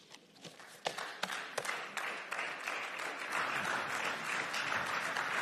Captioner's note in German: Beifall